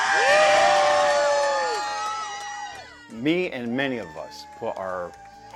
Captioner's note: applause